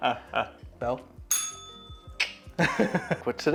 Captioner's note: bell rings